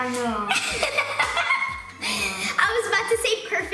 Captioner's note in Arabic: يضحك